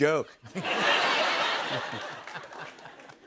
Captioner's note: laughter